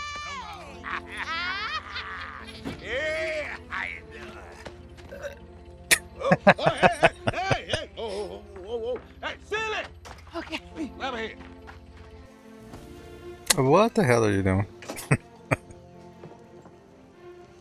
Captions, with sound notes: [Laughing] What the hell are you doing? [Chuckling]